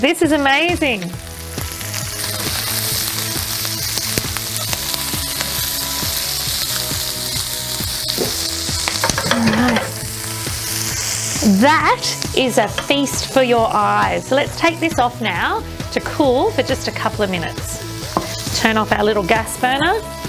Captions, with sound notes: (sizzling) All right. That is a feast for your eyes. Let's take this off now to cool for just a couple of minutes. Turn off our little gas burner.